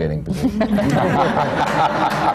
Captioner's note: laughter